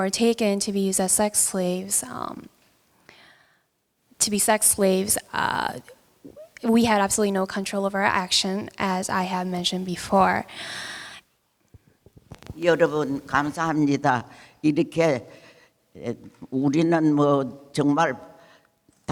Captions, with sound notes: were taken to be used as sex slaves, to be sex slaves, we had absolutely no control over our action, as I have mentioned before. (speaking in foreign language)